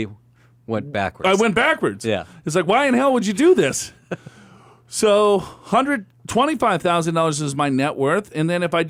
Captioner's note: laughs